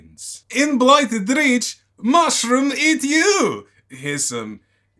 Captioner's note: in cod Russian accent